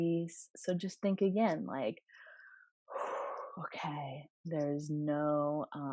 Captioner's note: breath